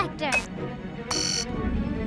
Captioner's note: buttons beeping